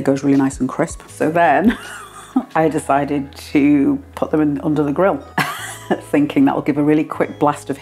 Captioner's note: laugh